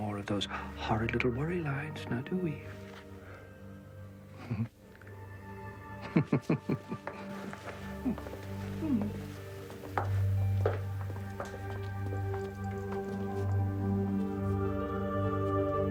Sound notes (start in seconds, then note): 5.6 Lasky chuckling over eerie electronic music